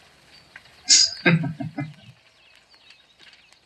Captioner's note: chuckling